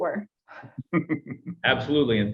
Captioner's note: laughter